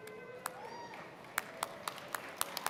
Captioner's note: applause